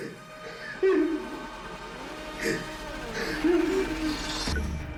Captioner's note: crying